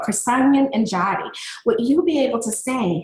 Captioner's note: speaking in a foreign language